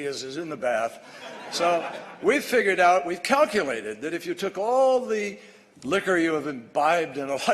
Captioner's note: laughter